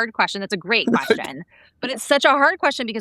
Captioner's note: laughing